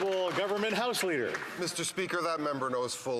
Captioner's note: some Applause